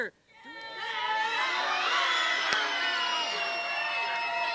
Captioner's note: cheering